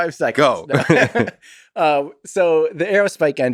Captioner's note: Lex laughs; Tim laughs